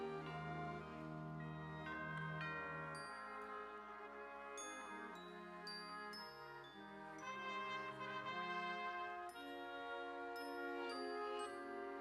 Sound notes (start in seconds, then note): none